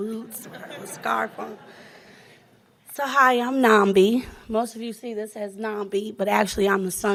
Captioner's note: laughing